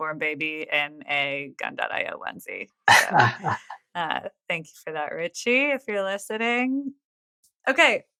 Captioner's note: <Laugh>